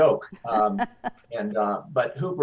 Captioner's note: laughs